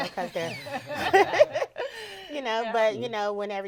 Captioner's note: all laughing